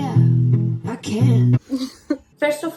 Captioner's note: laughs